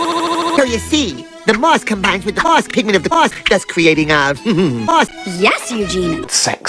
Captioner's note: giggles